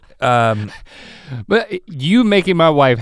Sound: laughs

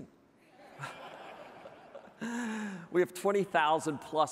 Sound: audience laughing

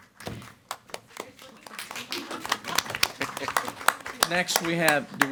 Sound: everyone applauding

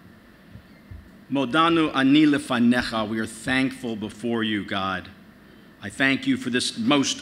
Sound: speaking in spanish

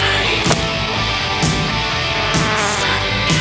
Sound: newspaper hits table; fly buzzes

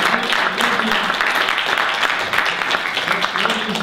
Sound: applause ends

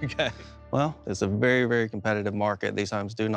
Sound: laughing

